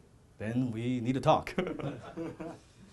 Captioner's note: audience laughing; chuckles; audience laughing